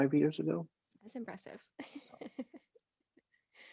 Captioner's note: laughs